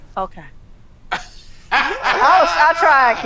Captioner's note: laughing